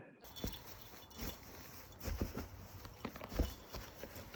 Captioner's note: body thumping